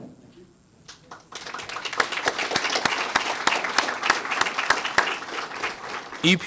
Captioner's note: applause